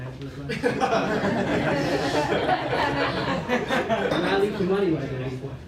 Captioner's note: laughter